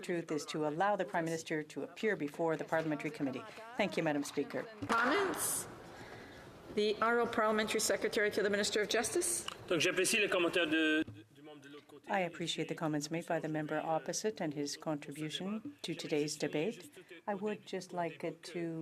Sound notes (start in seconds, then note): 14.5 speaking French